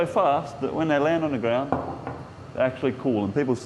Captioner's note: knocking